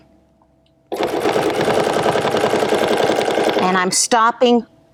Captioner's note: machine whirring